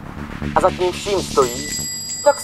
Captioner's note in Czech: Zvonek u dveří